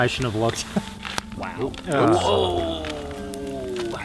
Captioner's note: all exclaiming